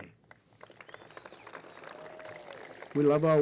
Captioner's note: applause